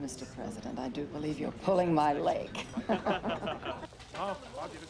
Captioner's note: laughs; all laugh